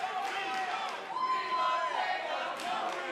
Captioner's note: fans chanting